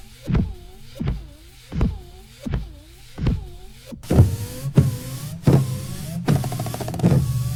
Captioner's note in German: Scheibenwischergeräusch